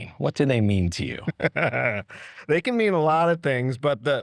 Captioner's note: chuckles